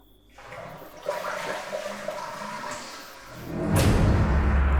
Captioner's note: toilet flushes; dramatic musical score